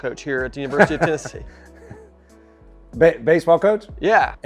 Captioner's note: laughing